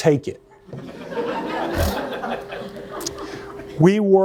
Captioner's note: laughter